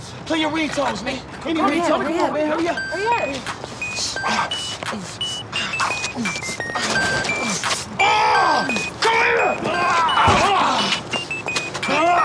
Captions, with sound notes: PLAY YOUR RINGTONES, MAN. HURRY UP. HURRY UP, HURRY UP. [RINGTONE PLAYING] [GRUNTS] COME HERE!